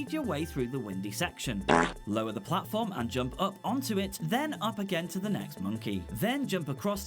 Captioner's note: fart